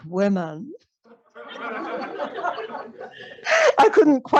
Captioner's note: laughter